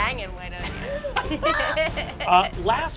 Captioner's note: laughing